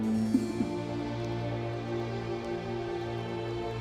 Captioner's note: sobbing; soft music